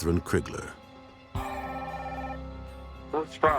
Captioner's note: phone ringing